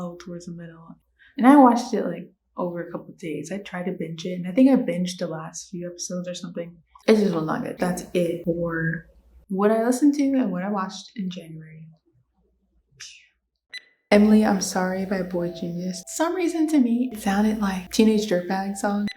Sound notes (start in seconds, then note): 12.6 psssh noise from mouth; 13.7 beep sfx